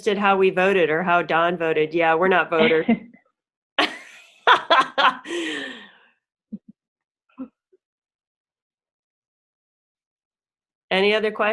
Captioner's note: laughs